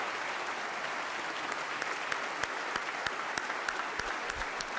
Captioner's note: audience applause